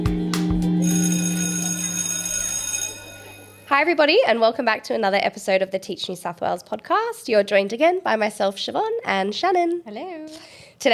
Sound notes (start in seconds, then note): 0.7 bell ringing